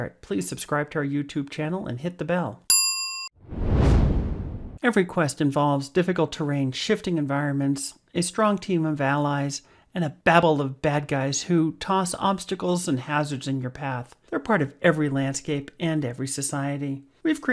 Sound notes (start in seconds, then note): 2.7 bell dinging; 3.4 air whooshing